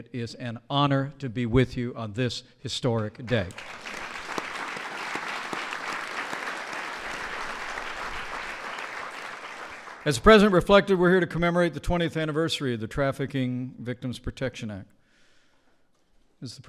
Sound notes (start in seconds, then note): 3.2 applause